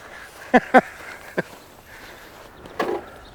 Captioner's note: laughs